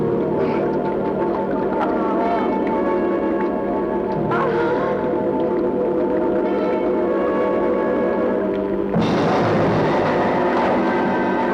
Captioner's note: moaning